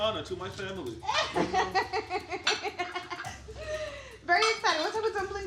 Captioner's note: laughing